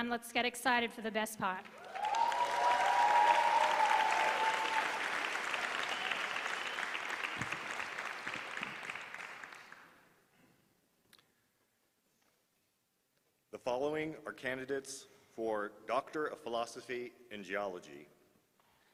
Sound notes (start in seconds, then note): 1.6 applause